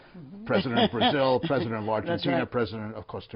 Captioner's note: laughter